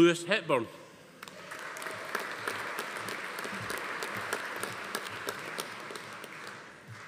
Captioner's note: audience applauding; attendee cheering